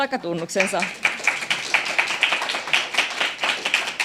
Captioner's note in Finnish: aplodeja